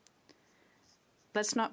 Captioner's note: speaking French